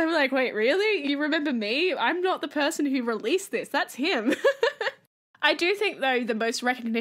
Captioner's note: laughs